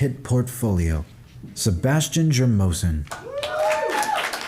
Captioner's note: applause